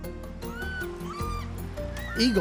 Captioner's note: eagles calling